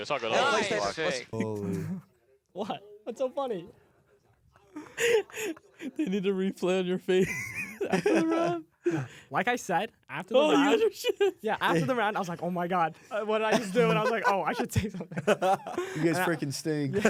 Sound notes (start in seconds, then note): 1.4 laughs; 4.6 laughs; 7.3 laughs; 11.4 laughs; 13.5 laughing; 13.5 laughs